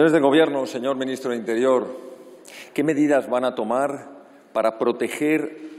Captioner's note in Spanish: none